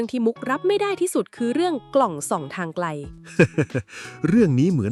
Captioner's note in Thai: เสียงหัวเราะ